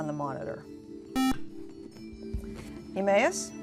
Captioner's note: buzzer